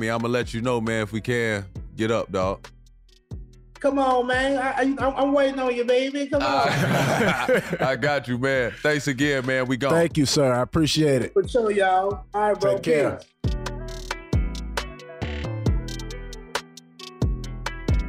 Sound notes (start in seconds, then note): 6.4 brothers laughing; 13.8 cool instrumental music